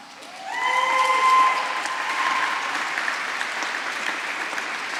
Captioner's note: applause